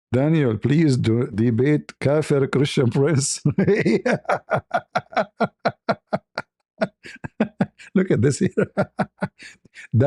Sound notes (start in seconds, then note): 2.9 ketawa